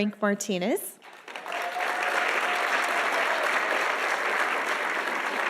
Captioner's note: audience applauding